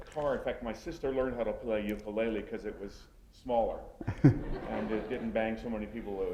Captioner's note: laughter